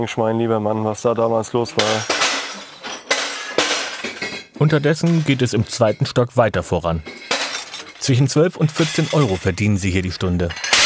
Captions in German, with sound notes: Mein lieber Mann, was da damals los war ... (Klirren) Unterdessen geht es im zweiten Stock weiter voran. Zwischen zwölf und 14 Euro verdienen sie hier die Stunde.